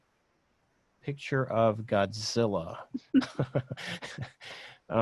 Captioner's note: laughs